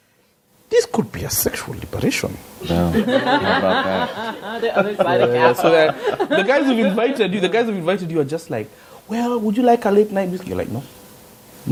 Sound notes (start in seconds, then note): 2.6 laughter